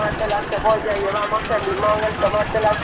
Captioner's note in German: Lautsprecherdurchsage auf Spanisch